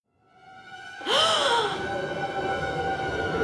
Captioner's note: gasps; menacing music